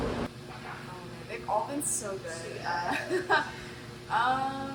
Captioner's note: laughs